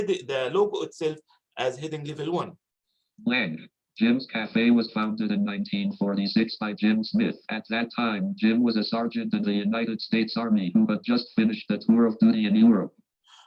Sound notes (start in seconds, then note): 2.9 automated Voice